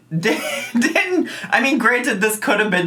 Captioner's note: laughing